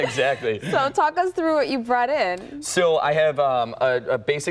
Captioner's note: laughter